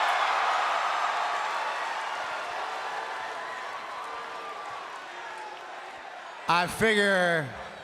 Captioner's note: applause